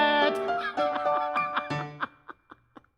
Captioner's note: laughing